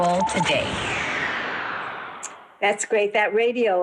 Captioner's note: air whooshing